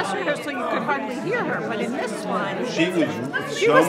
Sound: excited chatter

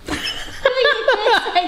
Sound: laughing

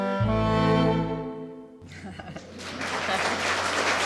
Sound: applause

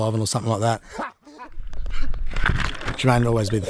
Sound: laughter

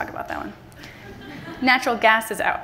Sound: laughter from the audience

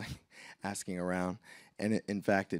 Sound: laughs

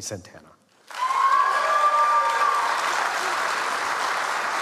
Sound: audience applauds

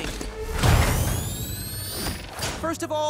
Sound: Sonic spin noise

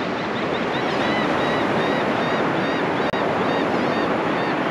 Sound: laughing Gull sounds grow louder

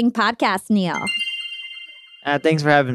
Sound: chiming

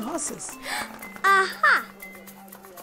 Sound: gasping

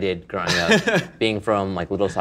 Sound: laughs

